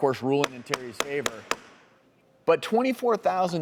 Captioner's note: gavel banging